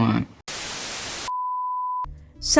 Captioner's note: static